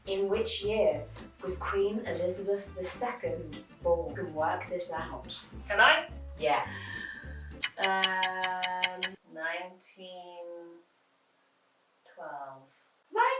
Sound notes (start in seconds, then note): 7.5 clock ticking